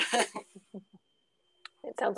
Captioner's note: laughter